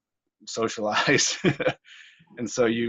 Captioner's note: laughs